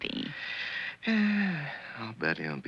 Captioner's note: dad sighing